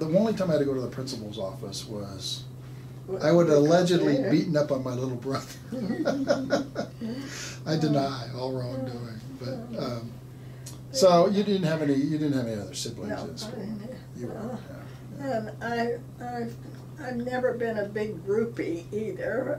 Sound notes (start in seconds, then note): 5.6 laughing